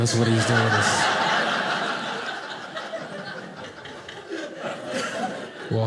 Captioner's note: audience laughing